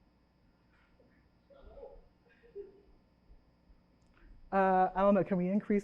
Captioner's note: chuckles